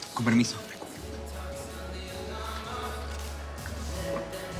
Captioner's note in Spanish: Susurra